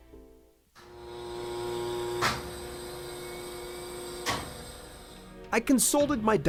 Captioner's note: sound of x-ray machine running